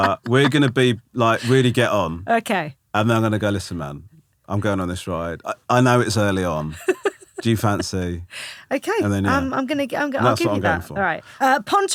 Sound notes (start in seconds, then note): 6.8 laughing